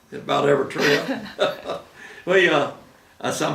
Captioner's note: laughing